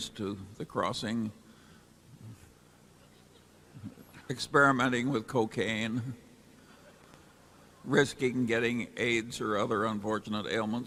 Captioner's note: laughter